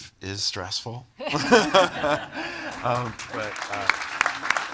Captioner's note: all laughing; audience applauding